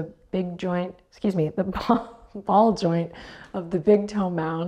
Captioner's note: chuckles